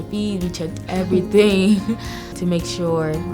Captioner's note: laughing